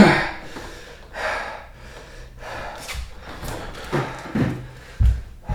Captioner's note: manny breathing hard